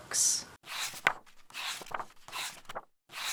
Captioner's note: pages turning